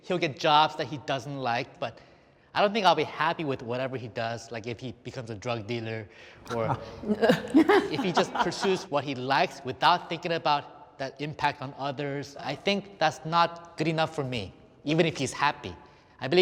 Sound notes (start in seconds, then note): 6.5 lady in black laughs; 7.1 man in suit laughs